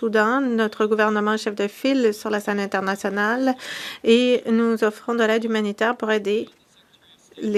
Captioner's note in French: voix de l'interprète